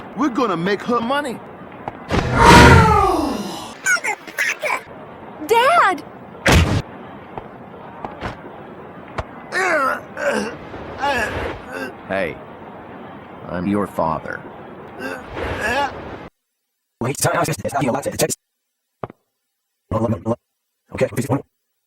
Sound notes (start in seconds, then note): 9.5 defeated noises; 15.0 reversed defeated noises; 17.0 Yuyanese; 19.9 Yuyanese